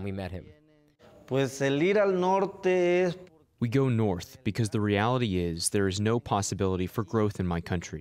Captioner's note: through translator